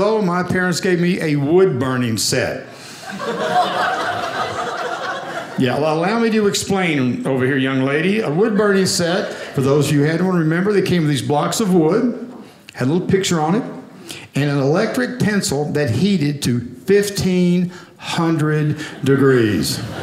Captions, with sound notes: my parents gave me a wood burning set. (audience laughing) Yeah, allow me to explain over here, young lady. A wood burning set, for those you had one, remember they came with these blocks of wood. Had a little picture on it and an electric pencil that heated to 1500 degrees.